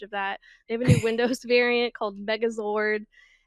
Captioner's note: interviewer laughs